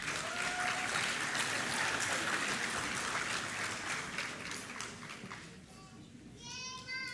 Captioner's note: applause